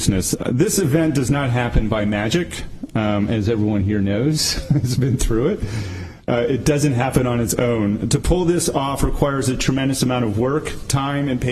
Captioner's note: laughter